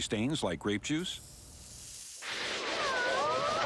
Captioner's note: none